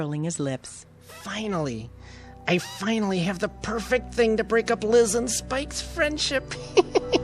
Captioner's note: laughing